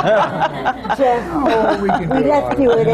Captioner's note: laughter